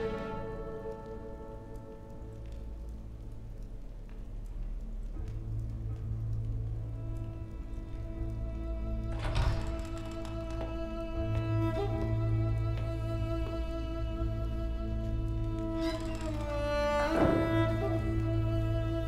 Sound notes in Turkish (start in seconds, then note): 8.9 Kapı açılma sesi; 17.0 Kapı kapanma sesi